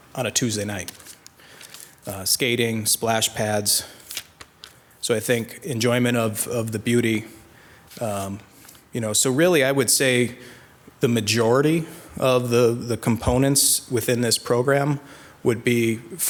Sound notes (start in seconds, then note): 3.9 paper crackling